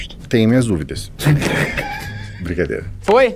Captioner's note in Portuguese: risadas